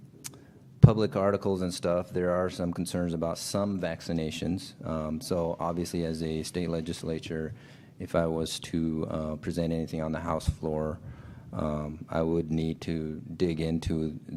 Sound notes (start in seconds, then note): none